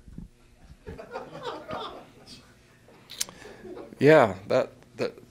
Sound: laughter

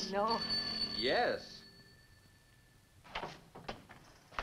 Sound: phone ringing

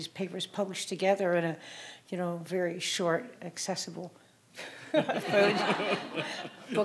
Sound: audience laughing

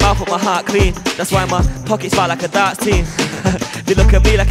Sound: chuckles

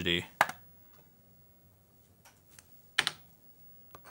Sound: clicking

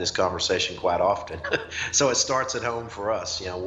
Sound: laughs

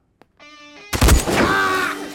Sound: gunshot

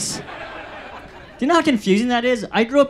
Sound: audience laughs

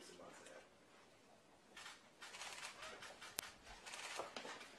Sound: camera clicks

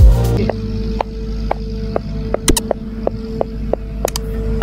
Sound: mechanical whirring

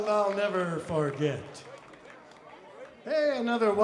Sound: crowd applauds

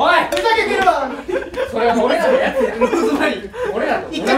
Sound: laughters

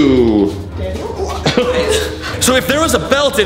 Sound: laughter

